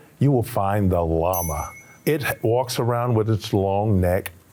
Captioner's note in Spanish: sonido de campana